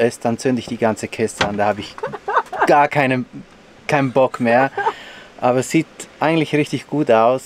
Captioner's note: laughs